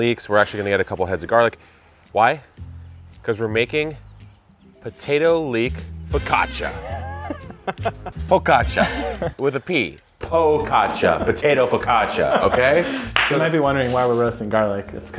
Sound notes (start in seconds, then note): 6.6 laughing